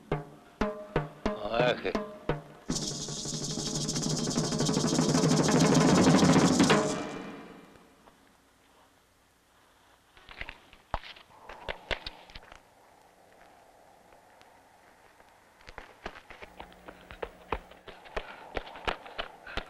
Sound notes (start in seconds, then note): 1.2 speaks in foreign language; 5.2 intense drum music